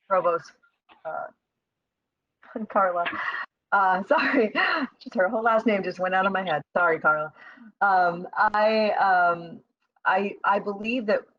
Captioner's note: exhale